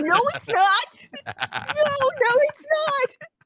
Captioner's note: laughing